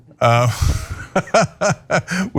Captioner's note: laugh